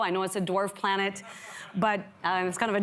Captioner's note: audience laughs